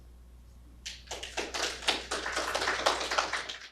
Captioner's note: audience clapping